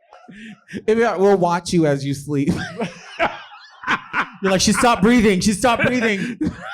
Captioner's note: laughing